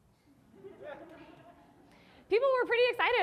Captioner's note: audience laughing